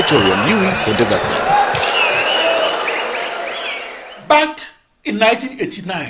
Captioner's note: wild applause and cheering for 22 seconds